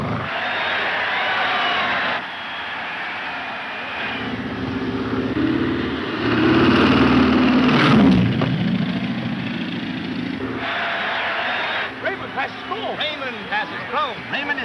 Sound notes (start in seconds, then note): 0.0 audience cheering; 4.2 plane engines rumbling; 10.4 audience cheering